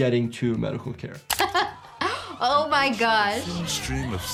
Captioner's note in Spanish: risas